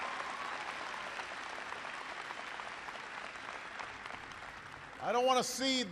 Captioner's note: applause